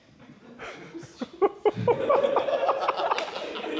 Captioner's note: laughter